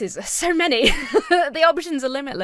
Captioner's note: laughs nervously